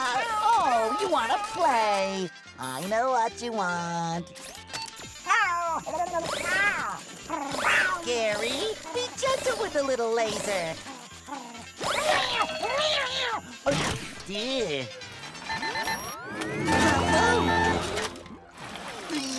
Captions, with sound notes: Oh, you wanna play! I know what you want. [meowing] Gary, be gentle with the little laser! Eh.